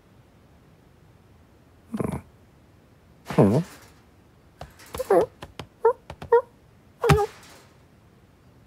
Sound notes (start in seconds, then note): 4.5 cage rattles again; 4.6 kitten stumbles